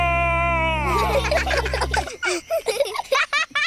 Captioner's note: children giggle